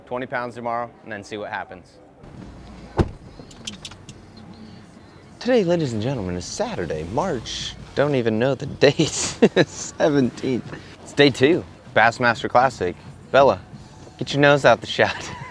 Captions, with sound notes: 20 pounds tomorrow and then see what happens. Today, ladies and gentlemen, is Saturday, March, don't even know the date (laughs), 17th. It's day two, Bassmaster Classic. Bella, get your nose out the shot (laughs).